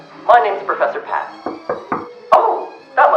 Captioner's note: knock knock knock